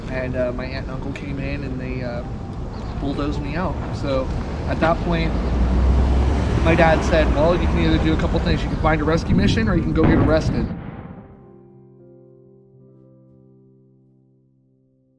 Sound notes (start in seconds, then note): 5.1 car engine roaring; 11.8 soft upbeat music